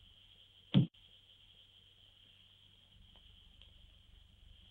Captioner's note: dart bangs